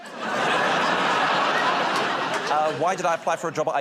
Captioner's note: laughter